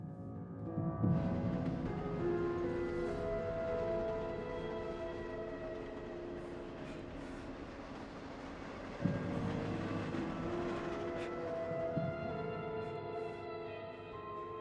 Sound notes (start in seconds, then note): 0.2 uneasy music; 1.8 train rumbling